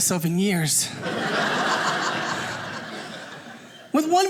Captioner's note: audience laughing